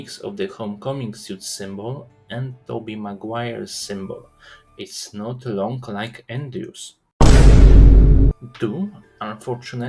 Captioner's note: SUS, vine boom